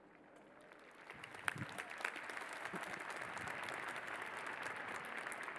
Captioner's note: applause